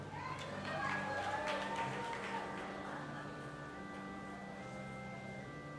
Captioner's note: audience applauding and cheering